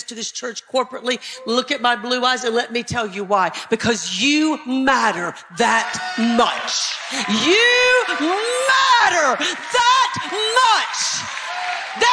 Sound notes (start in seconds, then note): 5.8 applause